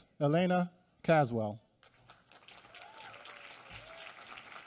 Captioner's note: applause